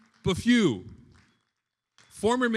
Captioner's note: attendees applauding